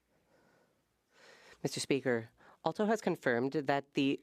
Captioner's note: speaking French